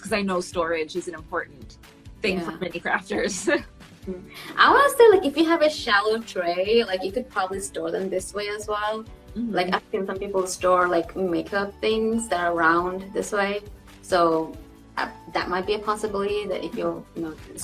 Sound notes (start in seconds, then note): 3.9 laughs